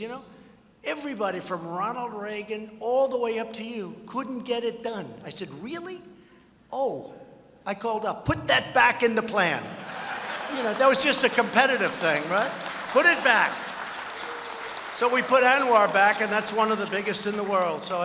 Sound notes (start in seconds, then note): 9.8 laughter; 13.9 applause